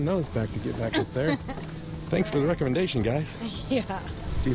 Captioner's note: laughs